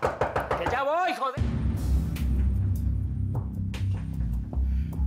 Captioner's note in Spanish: Toques en la puerta